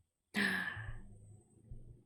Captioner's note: gasps